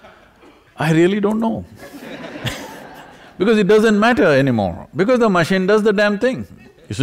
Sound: laughter

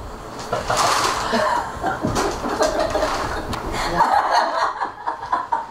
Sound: laughing

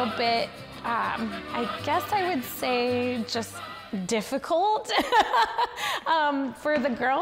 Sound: laughs

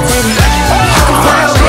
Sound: screams

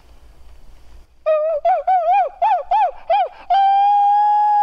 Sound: howling

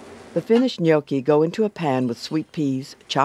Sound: voiceover

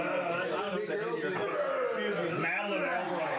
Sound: audience groans

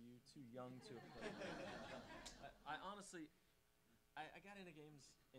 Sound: audience laughing

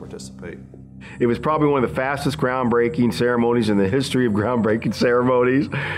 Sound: laughs

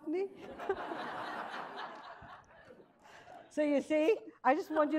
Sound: audience laughs

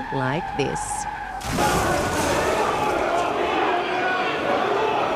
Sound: chaotic shouting

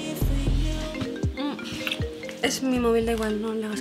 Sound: Ana’s phone sounds

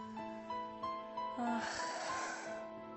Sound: stella sighs

